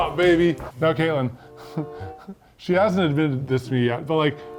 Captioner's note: laughs